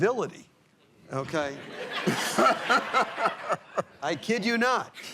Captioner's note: laughter